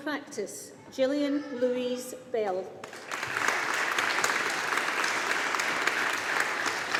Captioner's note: audience applauding